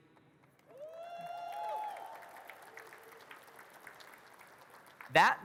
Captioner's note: audience cheers and claps